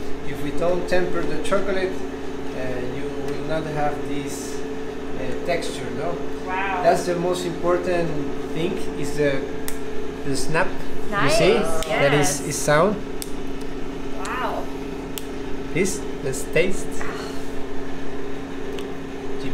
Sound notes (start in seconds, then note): 15.1 chocolate snapping